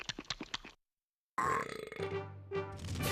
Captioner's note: belching